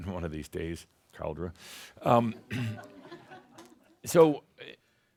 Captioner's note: a few chuckles